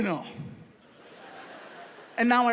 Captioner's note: audience laughs